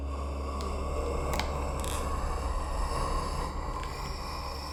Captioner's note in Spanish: sibilancias del demonio